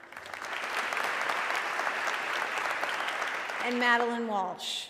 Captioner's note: audience clapping